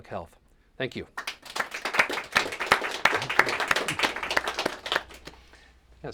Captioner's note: applause